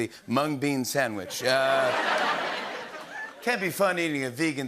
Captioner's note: laughter